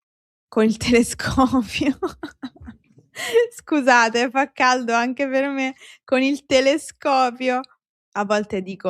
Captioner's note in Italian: risate